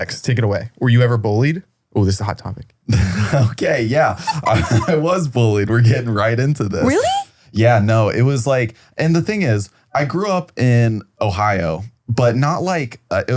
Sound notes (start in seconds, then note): 4.2 laughs